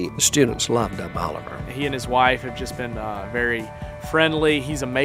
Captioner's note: voiceover